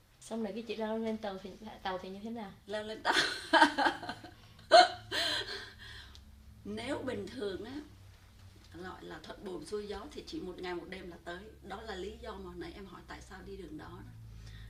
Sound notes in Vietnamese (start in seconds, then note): 4.6 laughs